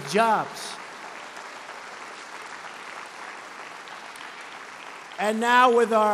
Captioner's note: applause